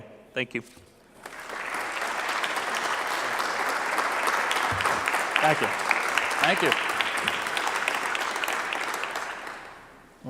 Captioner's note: clapping